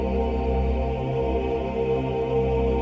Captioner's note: none